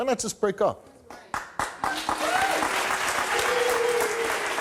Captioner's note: audience cheering